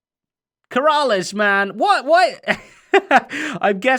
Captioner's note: chuckles